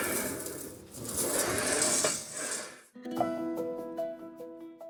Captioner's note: drilling Sound; metal Scraping; metal Rolling; cheerful Music